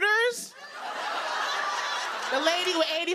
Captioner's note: laughter